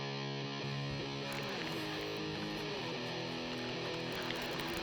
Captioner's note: rock music; fishing rod reeling